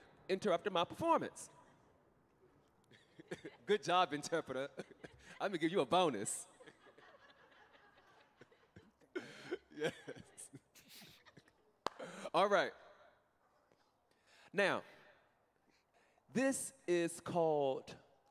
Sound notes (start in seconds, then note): 9.7 laughing